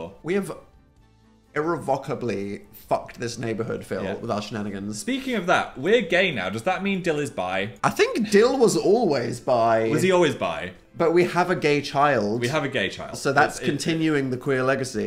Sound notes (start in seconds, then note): none